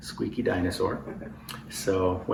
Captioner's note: laughter